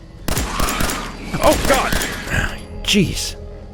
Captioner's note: blam! blam! blam!; wheeze